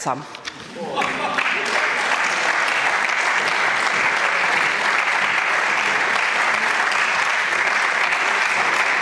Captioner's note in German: Applaus